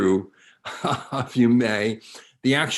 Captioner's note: chuckles